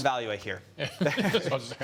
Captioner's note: laughter